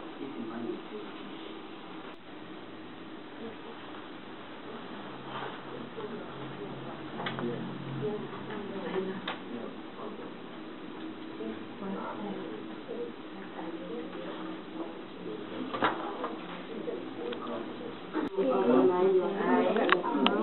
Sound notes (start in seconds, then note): 3.2 class discussion